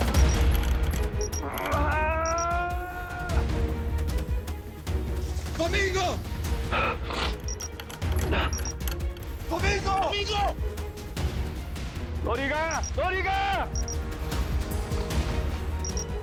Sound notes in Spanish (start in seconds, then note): 0.0 Bip repetitivo; 3.0 Gritos